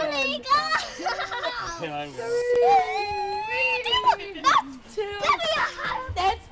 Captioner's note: laughs; squealing